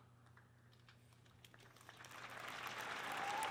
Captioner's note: soft nervous clapping from a bored audience